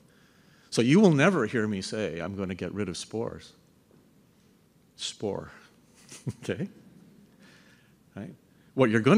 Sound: laughs

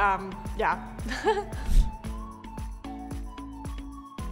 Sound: chuckling

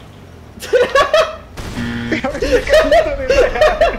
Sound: man laughing; buzzer blaring; man laughing

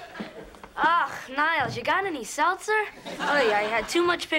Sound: jewish accent

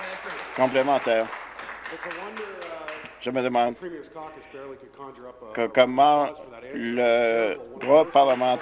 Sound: applause

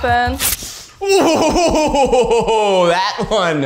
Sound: screams

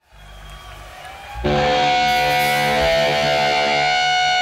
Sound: audio feedback

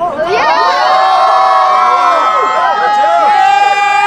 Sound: all cheering

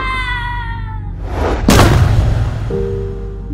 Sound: loud thud

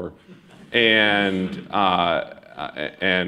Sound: laughter

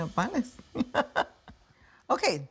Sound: laughing

